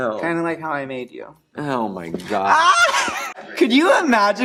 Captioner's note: Crystal laughs